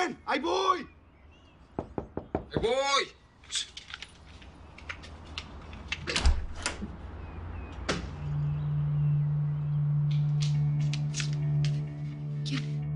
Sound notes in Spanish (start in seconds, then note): 1.8 Toques en la puerta